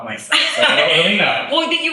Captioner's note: laughs